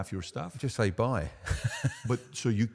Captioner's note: chuckling